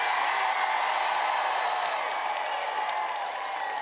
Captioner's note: applause